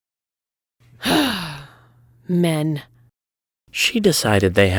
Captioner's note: sighs